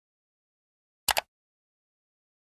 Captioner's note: mouse click sound